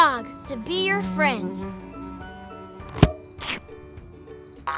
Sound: fly buzzes

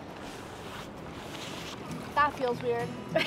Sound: water gently rushing

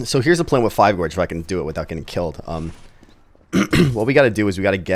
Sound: coughs

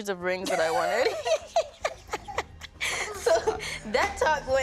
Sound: ladies laughing

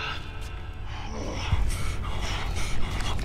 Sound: John grunts

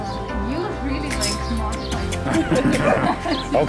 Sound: kissing sounds; laughter

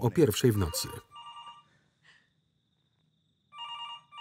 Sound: phone ringing

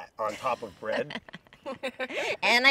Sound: laughing

